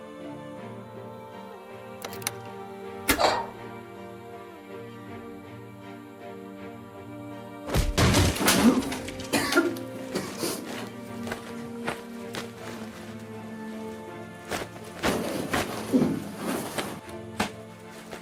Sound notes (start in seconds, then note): 2.0 door unlocked